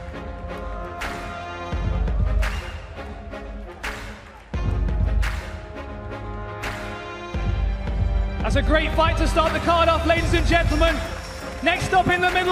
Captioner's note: applause